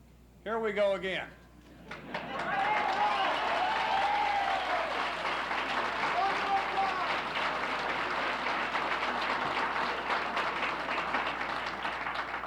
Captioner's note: applauses